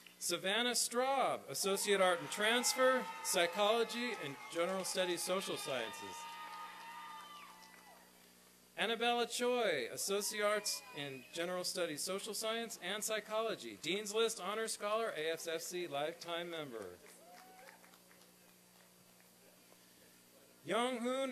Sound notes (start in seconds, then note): 8.7 applause; 16.8 applause and cheering